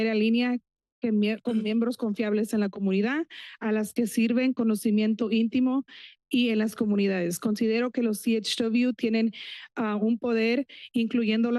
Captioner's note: foreign language